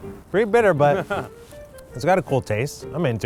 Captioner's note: chuckles